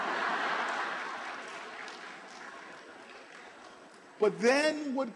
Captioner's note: laughter, applause